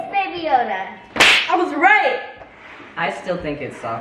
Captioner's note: claps